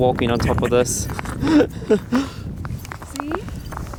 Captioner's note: laughing